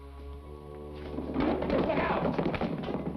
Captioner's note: box rattles